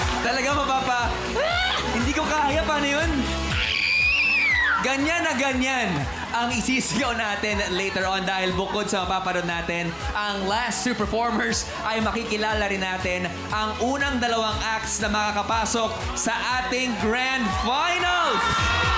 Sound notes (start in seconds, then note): 3.6 screeches